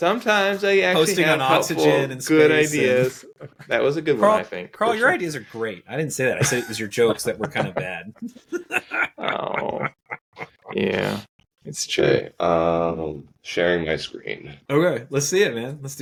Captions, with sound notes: - Sometimes I actually had a couple good ideas. That was a good one, I think. - Karl, your ideas are great. I didn't say that. I said it was your jokes that were kind of bad. (laughing) - Yeah. - It's true. - Sharing my screen. - Okay, let's see it, man.